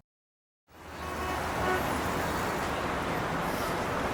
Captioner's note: traffic rushes